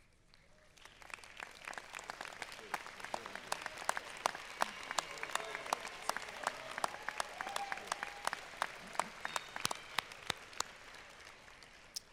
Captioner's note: applause